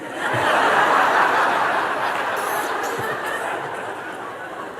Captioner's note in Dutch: gelach